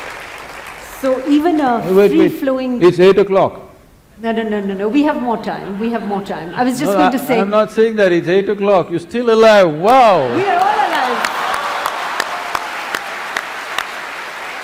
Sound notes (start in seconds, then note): 5.5 laughter; 10.2 laughter/Applause